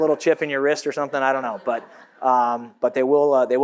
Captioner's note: audience laughs